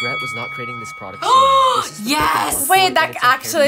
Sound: gasps

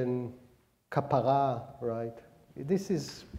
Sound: speaking hebrew

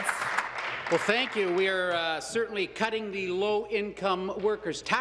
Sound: applause

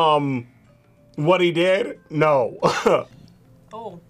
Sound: laughs

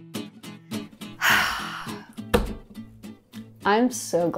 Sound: playful music; sighs; hand thudding

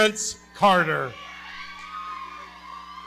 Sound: audience cheering

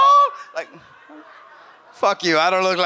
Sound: audience laughs

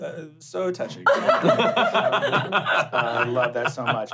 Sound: laughing

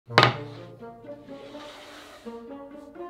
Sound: boarding sliding

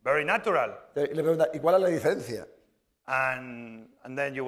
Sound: speaking spanish

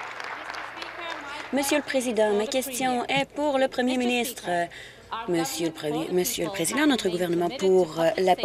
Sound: applause

